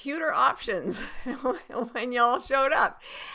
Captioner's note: laughing